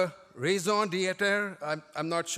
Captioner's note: foreign language